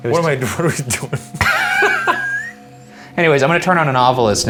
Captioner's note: both laughing